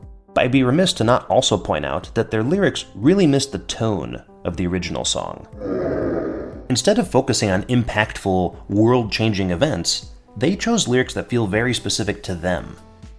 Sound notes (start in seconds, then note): 5.5 deepest crowd groans